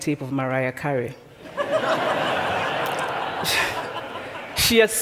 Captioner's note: laughter